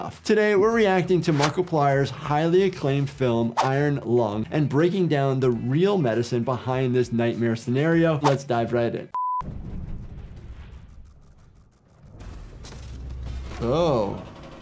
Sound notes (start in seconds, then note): 9.1 video beeps; 9.9 air rumbling